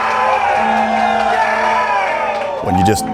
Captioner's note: crowd cheering